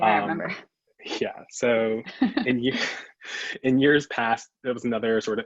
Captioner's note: chuckles